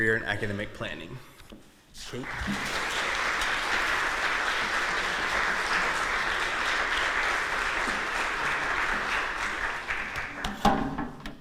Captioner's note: applause